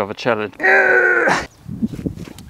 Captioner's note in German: Schwächlingsgeräusche